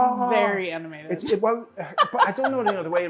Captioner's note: laughing